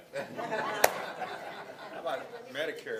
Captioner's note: laughing